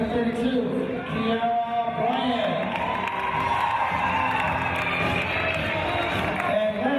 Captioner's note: team cheers